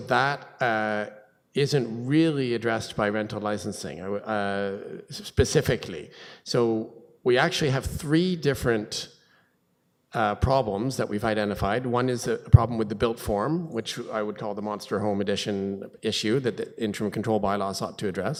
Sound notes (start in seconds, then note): none